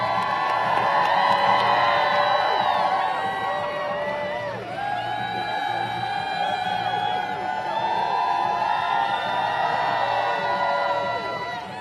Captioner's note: applause